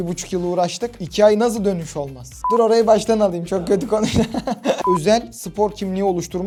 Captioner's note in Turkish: kahkaha